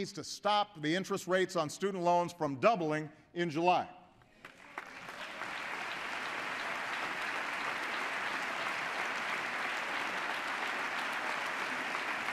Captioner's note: applause